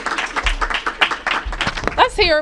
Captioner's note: applause